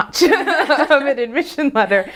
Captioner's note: both laugh